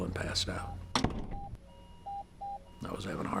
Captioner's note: heart monitor beeping